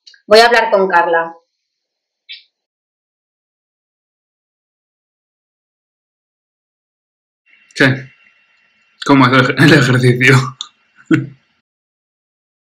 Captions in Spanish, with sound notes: Voy a hablar con Carla. ¿Qué? ¿Cómo ha ido el ejercicio? (ríe)